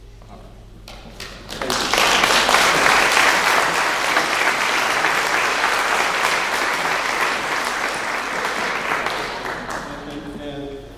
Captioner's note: clapping